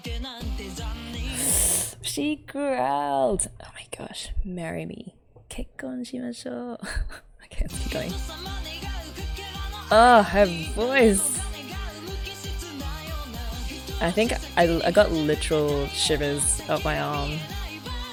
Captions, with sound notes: [sharp inhale] She growled! Oh my gosh. Marry me. Kekkon shimashou! [laughs] Okay let's keep going. Oh, her voice! I think - I got literal shivers up my arm.